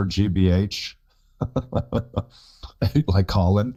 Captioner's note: chuckles